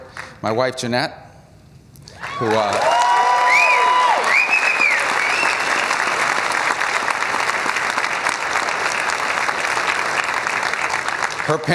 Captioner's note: cheers and applause